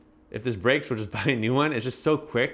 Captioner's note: chuckles